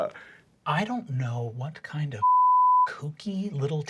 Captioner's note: beep